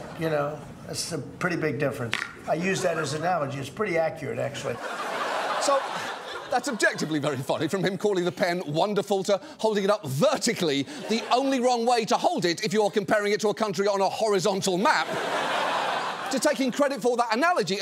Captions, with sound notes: You know? That's a pretty big difference. I use that as analogy. It's pretty accurate, actually. -(AUDIENCE LAUGHS) -So, that's objectively very funny, from him calling the pen "wonderful" to holding it up vertically, the only wrong way to hold it if you're comparing it to a country on a horizontal map... (AUDIENCE LAUGHS) ...to taking credit for that analogy